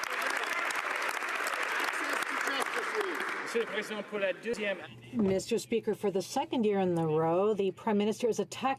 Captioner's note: some Applause